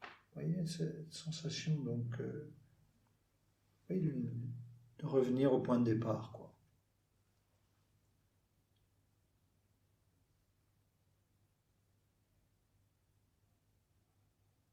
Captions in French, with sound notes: Voyez, ces sensations... de revenir au point du départ. [silence]